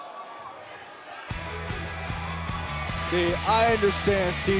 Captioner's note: cheers & applause